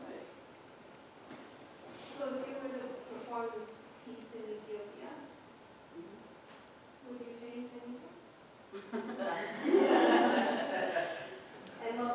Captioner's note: audience laughs